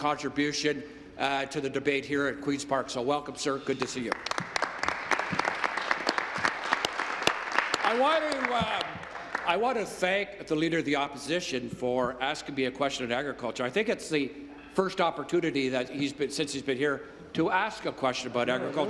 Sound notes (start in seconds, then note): 9.9 applause